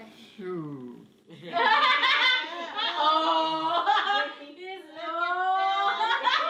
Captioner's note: laughing